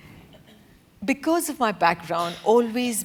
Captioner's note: laugh